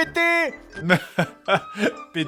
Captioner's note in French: rire